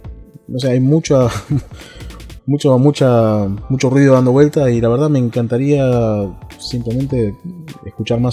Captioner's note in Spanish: risas